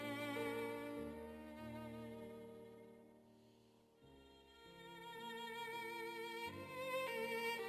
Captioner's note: none